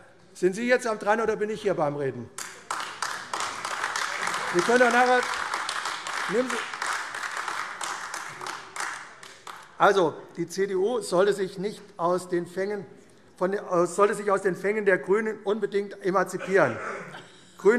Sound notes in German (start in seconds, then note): 2.3 Beifall AfD